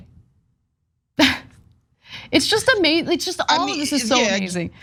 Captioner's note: laugh